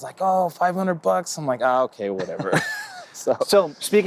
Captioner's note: laughs